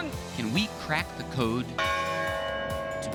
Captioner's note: bell rings